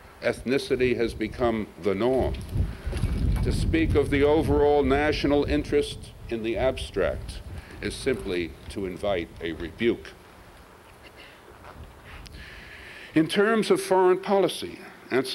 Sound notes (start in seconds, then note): 2.9 wind; 10.5 pause